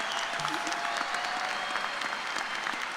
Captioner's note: cheers and applause